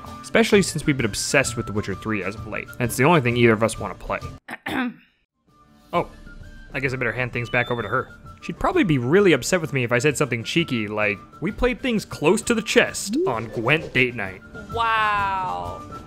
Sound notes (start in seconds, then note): 4.5 ahem